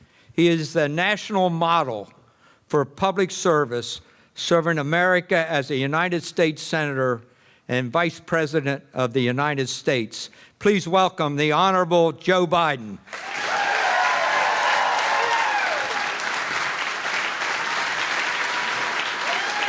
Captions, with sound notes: He is the national model for public service serving America as a United States Senator and Vice President of the United States please welcome the Honorable Joe Biden [applause]